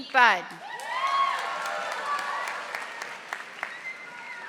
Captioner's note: audience applauding